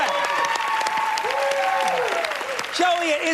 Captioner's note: cheers